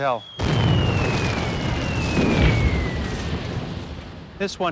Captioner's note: bomb explodes